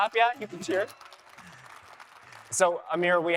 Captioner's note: audience applauding